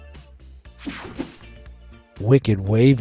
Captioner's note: screen whooshing